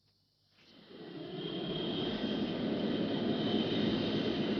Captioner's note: plane whirring